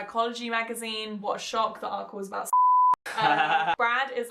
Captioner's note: beep